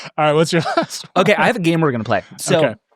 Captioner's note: laughing